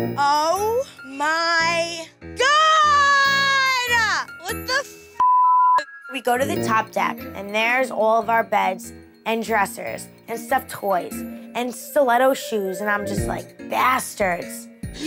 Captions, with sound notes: - Oh, my, God! - What the (beep)? - We go to the top deck and there's all of our bags and dressers and stuffed toys and stiletto shoes and I'm just like bastards!